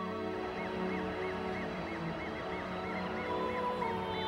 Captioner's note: police sirens